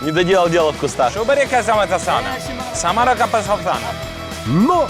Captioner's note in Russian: пытается разговаривать на местном наречии